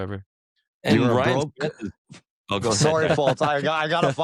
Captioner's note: chatter